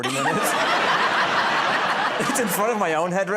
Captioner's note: laughter